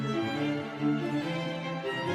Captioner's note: none